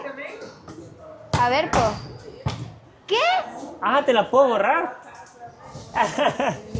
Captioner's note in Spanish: risas